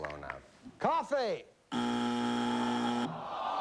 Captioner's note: buzzer